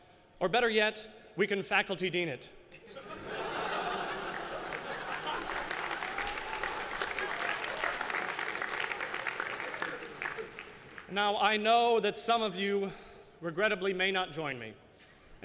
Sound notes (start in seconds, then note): 2.7 laughter; 5.8 applause